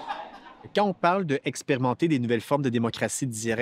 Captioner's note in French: rires